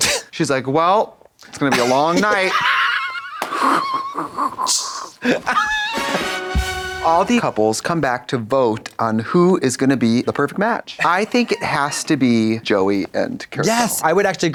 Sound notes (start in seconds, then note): 3.4 Katya rasps; 5.7 upbeat music